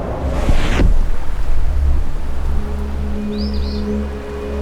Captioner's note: wind howling; dramatic music